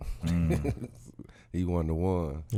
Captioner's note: laughing